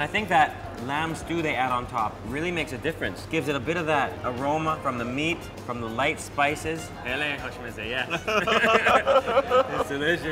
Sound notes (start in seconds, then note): 6.9 speaking Persian; 8.1 laughing